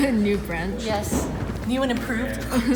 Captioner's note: laughs